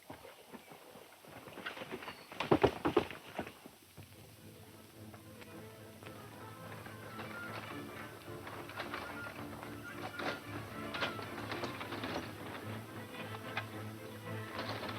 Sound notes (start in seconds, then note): 6.2 fast tense music; 7.6 wagons rattling